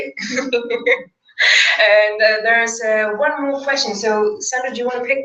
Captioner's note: laugh